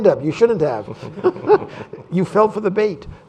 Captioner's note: laughter